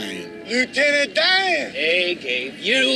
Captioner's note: car horn honking